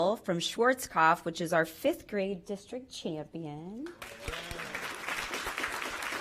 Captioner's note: applause